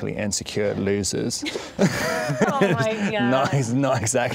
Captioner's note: laughing